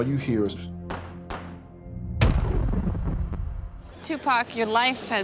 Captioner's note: gunshots